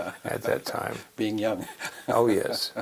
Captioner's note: laugh